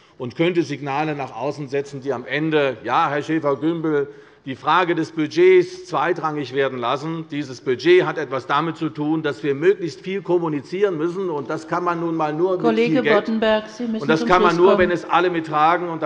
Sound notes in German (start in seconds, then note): none